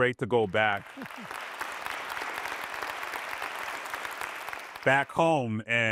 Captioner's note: applause